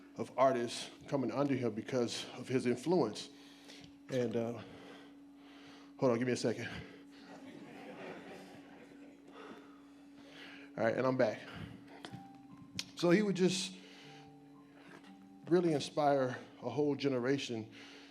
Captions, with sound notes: of artists coming unto him because of his influence. And, hold on, gimme a second. (breathing heavily) (audience laughs lightly) All right, and I'm back. So he would just really inspire a whole generation.